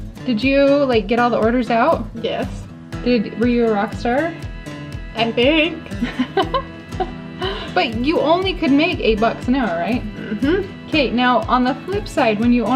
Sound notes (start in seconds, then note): 5.8 laughs